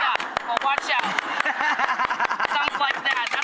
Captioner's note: knife tapping; laughing